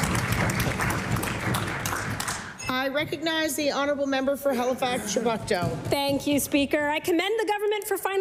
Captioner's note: cheering/Applause